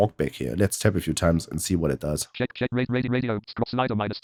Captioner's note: automated voice